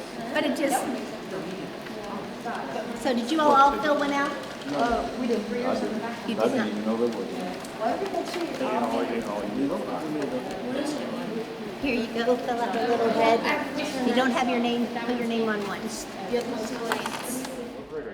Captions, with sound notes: but it just, so did you all fill one out? - No - You did not. (group talking amongst themselves) - Here you go, fill out the little head. You don't have your name. Put your name on once.